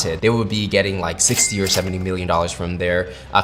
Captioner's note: cash register clinking